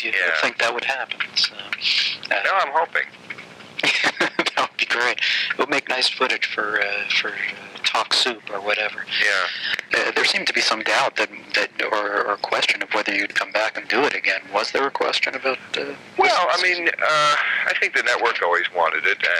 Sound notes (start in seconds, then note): 3.7 laughing